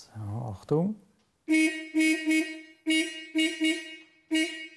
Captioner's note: repeated muffled horns